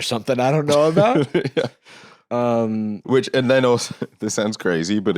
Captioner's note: laughs